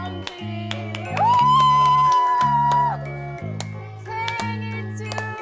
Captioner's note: loud cheering